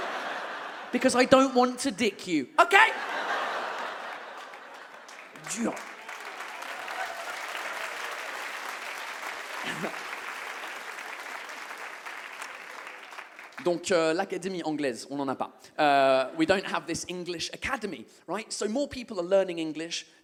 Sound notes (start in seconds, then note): 2.8 audience claps